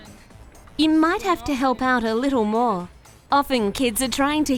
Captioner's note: voiceover